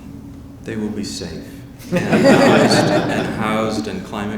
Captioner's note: audience laughing